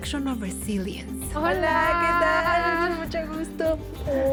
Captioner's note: both speak Spanish